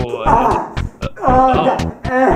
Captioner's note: moaning continues